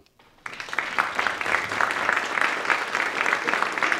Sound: applause

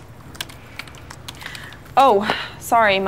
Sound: typing

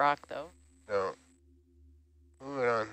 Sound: male Voice

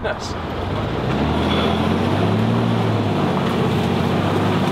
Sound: truck engine roaring

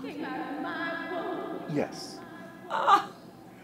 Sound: voice echoing; mother crying

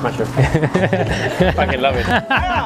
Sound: laughs

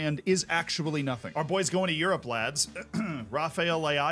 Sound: clears throat

